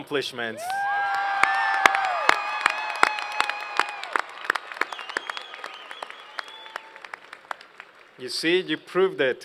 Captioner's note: cheers and Applause